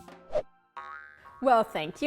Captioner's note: spring bouncing